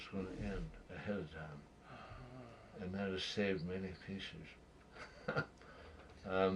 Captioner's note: laughs